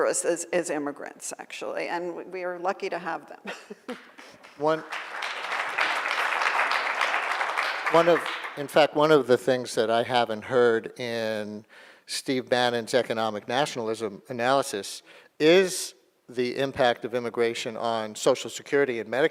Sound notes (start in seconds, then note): 3.7 laughing; 4.1 audience applauding